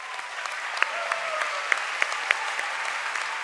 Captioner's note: cheering and applause